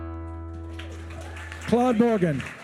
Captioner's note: attendees cheering